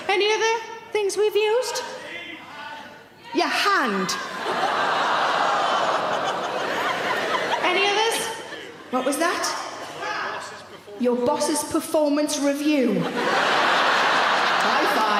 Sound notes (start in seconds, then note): 4.0 audience laughing; 4.8 audience gasp; 12.8 audience laughing